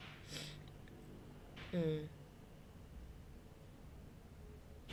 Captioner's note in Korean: 콧방귀